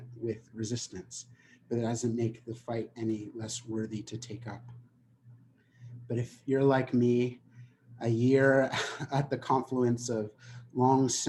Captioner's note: chuckling